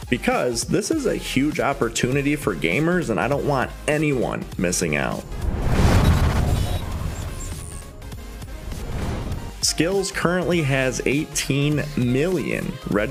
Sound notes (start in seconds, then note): 5.2 air whooshes; 5.2 electricity buzzing